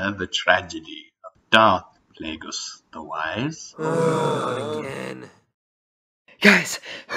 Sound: moan

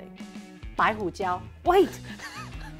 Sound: speaking in mandarin

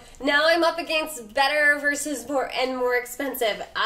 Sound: none

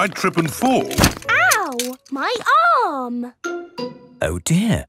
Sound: thumps

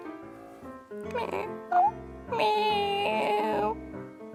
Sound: meow

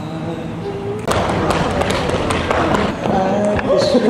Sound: thumping

